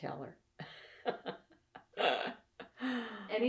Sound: laughs

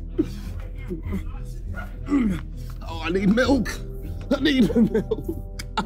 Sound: grunting

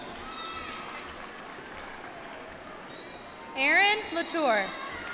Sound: applause

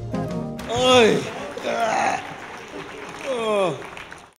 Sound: grunting Sounds

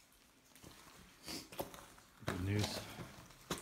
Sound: sniff

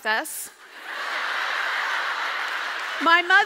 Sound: audience laughs

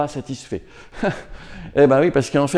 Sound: forced laughter

